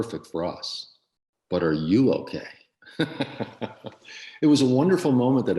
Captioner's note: laughs